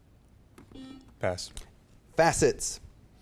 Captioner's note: beep